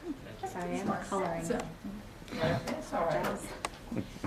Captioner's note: students speaking away from mic